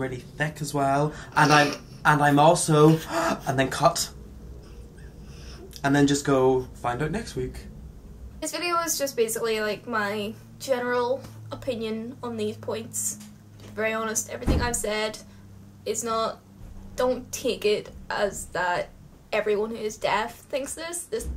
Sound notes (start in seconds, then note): 4.6 gasps